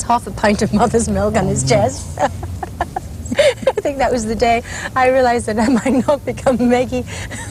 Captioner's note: laughing